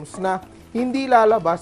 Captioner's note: sizzle